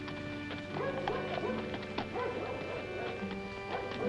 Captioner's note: mellow music; dogs barking